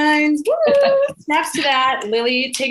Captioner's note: exclaims